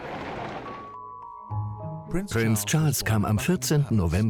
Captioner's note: voiceover